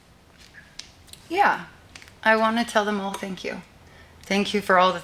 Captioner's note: none